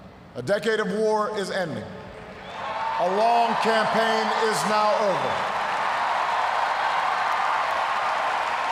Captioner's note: cheers, applause